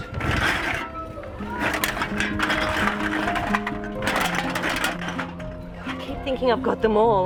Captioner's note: cans rustle